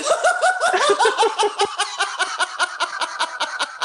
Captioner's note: laughter